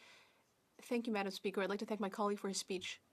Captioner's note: speaking French